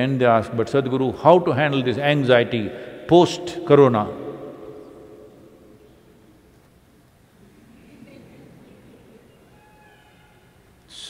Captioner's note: few laugh